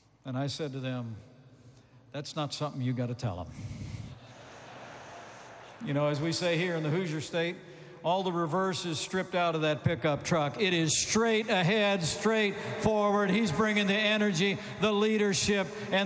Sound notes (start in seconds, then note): 4.0 laughter